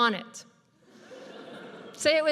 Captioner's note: audience laughs